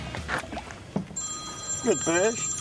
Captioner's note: phone ringing